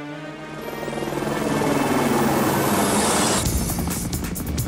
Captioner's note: helicopter whirring